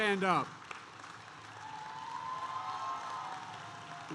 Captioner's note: applause